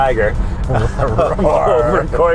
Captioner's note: laugh